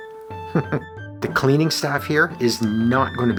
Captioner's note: chuckles